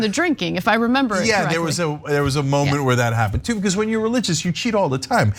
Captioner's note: laugh